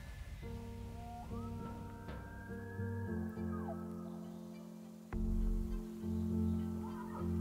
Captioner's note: somber music; elk bugling